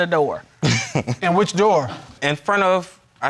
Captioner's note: chuckling